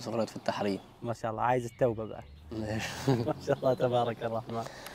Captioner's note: in Egyptian accent